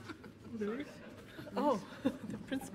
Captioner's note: overlapping chattering